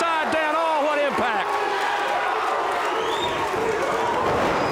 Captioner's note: audience barks